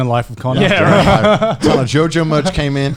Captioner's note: laughing